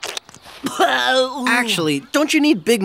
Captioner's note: chewing; spitting